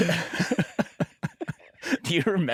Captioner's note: laughter